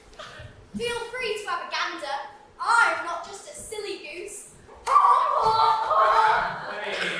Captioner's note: honk laughter